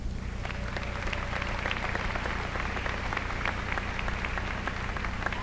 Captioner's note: applause